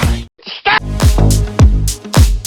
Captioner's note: sound effect; STAHP sound effect